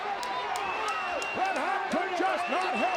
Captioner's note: audience cheers